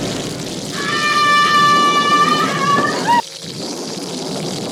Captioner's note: lightning sound; woman screaming; thunder